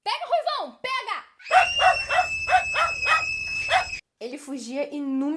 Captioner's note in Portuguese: Gritos e latidos